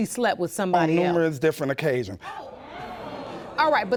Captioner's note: audience exclaiming